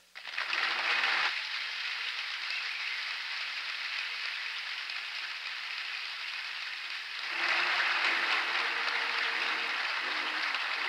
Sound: applause

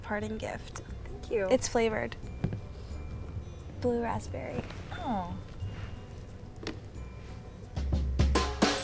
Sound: sniffs

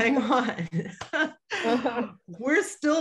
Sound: chuckles

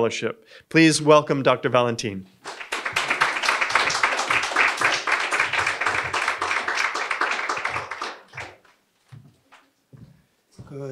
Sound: applause

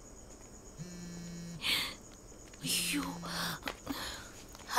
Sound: phone vibrating

